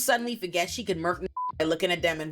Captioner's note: beep